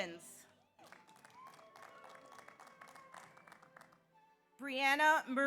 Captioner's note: audience applauds; audience cheers